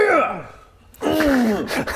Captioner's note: hrgggh